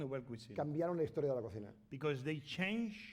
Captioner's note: speaking spanish